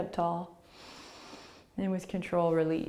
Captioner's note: inhaling